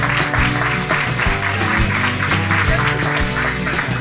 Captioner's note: applause